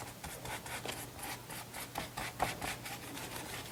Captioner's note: brush rasping